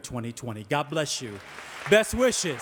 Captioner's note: audience applauding